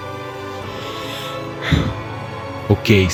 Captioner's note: sigh